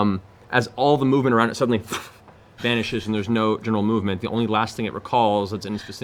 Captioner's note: poof